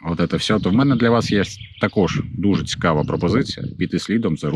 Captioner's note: speaking Ukrainian